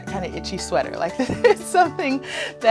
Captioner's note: laughter